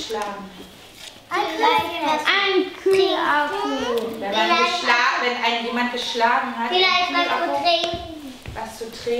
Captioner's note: children shout at one another